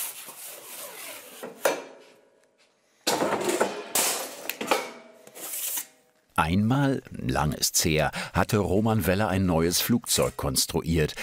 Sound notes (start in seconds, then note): 3.0 loud knocking noise